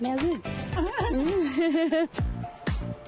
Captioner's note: laughter